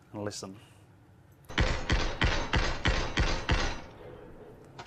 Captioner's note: gunshots